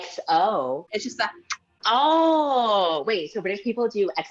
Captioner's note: kiss